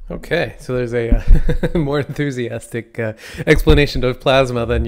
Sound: laughs

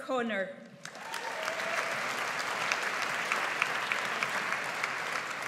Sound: audience applauds

